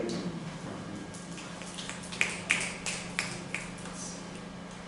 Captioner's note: applause